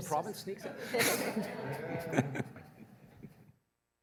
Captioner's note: laughter